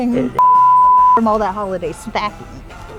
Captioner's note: laughing